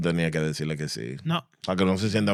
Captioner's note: speaking In Foreign Language